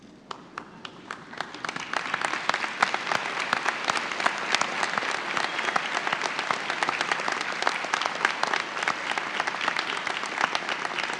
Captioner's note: audience applause